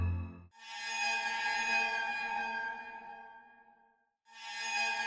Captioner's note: creepy sound effects; spooky music